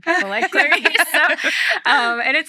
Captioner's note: laughing